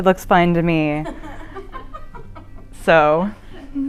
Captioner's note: laughing